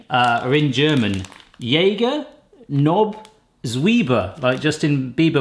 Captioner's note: speaking German